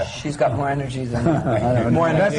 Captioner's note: laughter